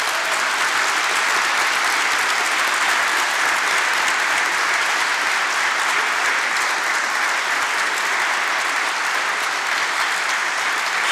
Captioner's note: applause